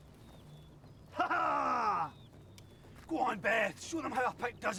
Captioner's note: man laughs